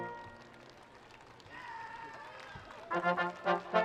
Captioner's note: students cheering and screaming; orchestral music